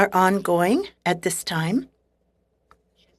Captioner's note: speaking French